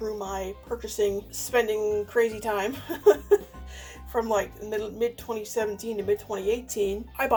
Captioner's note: laughs